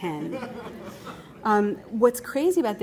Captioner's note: laughter